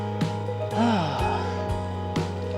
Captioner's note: sighs